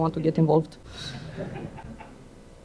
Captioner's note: laughter